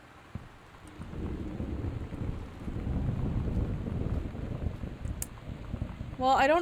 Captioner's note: thunder